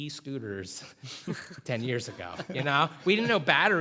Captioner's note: laughter